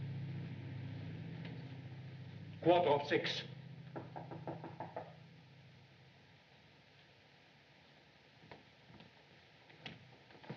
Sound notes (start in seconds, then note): 3.9 knocking